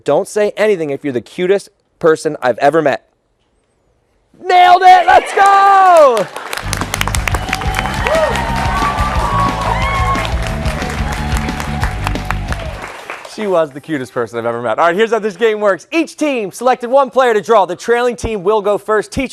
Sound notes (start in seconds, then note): 10.2 cheers and applause